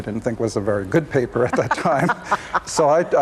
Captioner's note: laughs